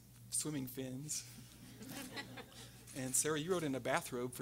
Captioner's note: everyone laughing